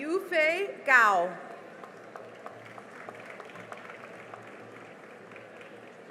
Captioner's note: cheering and applause